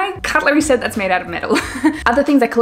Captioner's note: laughs